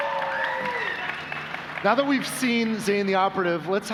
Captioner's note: applause